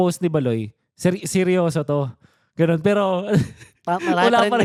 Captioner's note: laughs